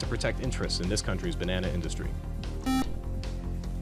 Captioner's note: buzzer